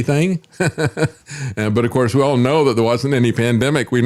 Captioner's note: laughs